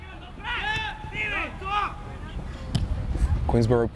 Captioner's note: players shouting